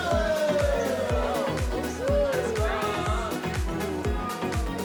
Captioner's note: cheering, exclaiming